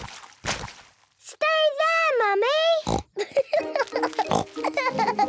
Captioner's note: laughing